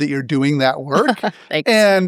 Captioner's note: laugh